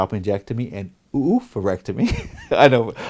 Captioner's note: laughs